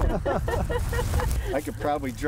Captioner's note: laughter